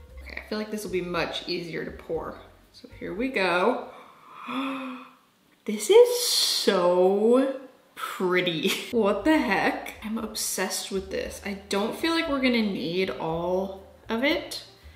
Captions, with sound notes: Okay, I feel like this will be much easier to pour, so here we go. (gasps) This is so pretty. What the heck? I'm obsessed with this. I don't feel like we're gonna need all of it.